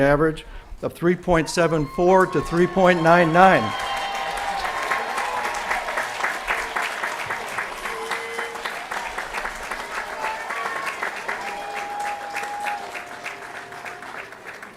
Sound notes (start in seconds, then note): 3.7 applause & Cheering